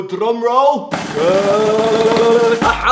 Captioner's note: imitates drum roll; hand tapping